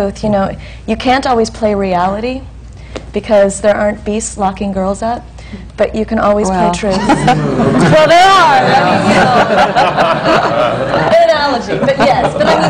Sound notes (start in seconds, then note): 6.9 laughter